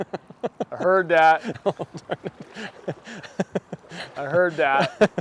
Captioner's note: laughing